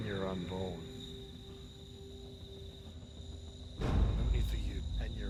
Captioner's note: crickets chirping; eerie music